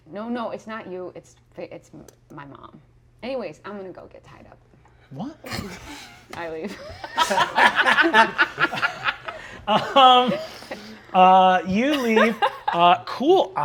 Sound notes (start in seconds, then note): 6.6 players laughing